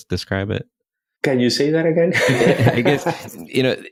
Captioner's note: laughs